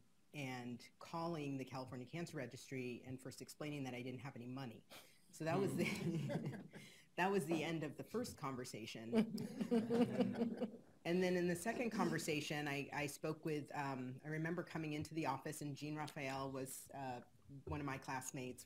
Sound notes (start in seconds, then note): 5.5 laughs lightly; 9.1 laughing